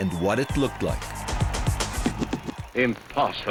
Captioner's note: crowd cheering